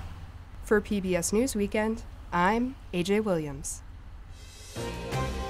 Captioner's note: voice-over